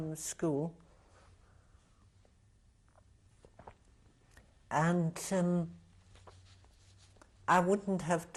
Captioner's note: drinks; pauses for 3 seconds